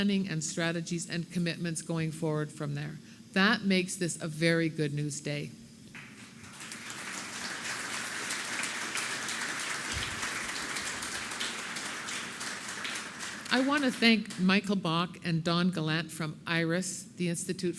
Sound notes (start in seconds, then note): 7.2 applause